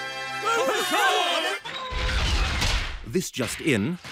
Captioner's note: cheering